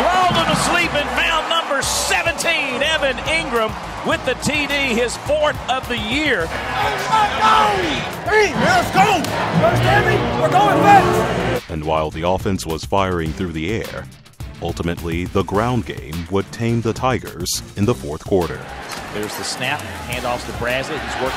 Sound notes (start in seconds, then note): 0.3 voiceover; 12.0 voiceover; 18.9 voiceover